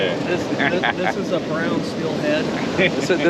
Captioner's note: chuckling